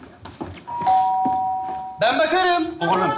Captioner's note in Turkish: Zil çalar